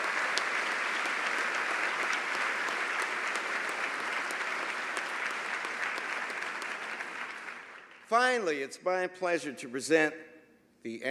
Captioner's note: applause